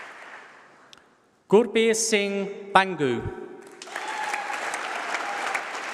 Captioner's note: applause